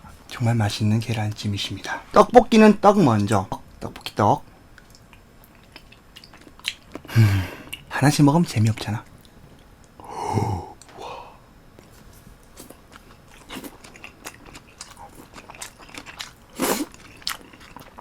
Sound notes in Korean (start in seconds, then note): 15.6 우걱우걱 쿰척쿰척